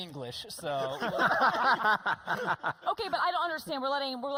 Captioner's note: laughing